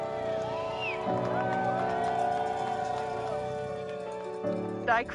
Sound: cheers

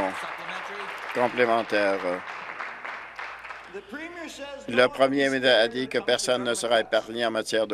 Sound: applause

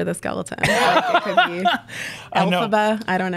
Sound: laughs

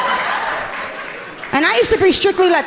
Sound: audience laughing amusingly

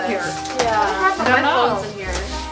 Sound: mom mumbles

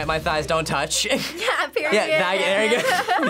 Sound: laughs

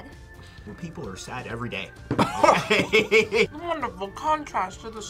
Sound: both laugh

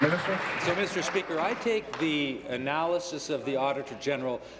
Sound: applause

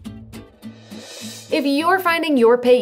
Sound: upbeat music; screen whooshes

